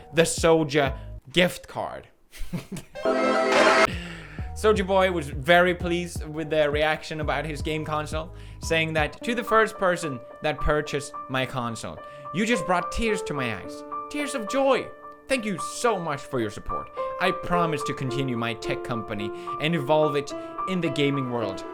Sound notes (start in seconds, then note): 3.8 wheeze